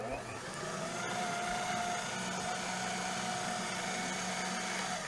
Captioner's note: machine whirring